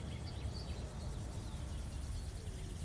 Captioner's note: birds chirping